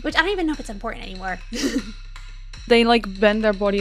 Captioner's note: chuckles